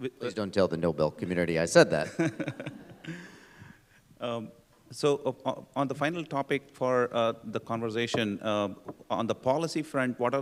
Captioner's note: laughter